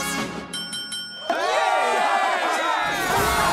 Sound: cheers

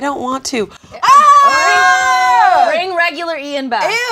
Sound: group screams in unison

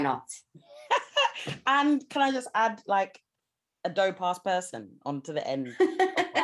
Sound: laughs; laughs

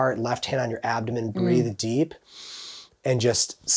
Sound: inhaling deeply

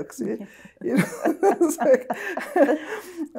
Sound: both laughing

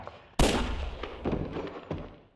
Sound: gunshot; thud

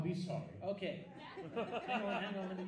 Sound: audience laughs

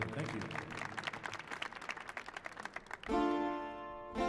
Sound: audience applauding; energetic music

